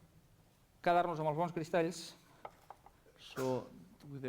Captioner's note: non-english speech